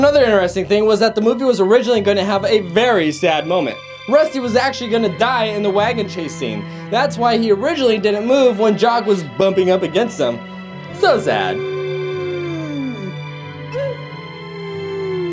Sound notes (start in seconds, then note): 11.3 dog howls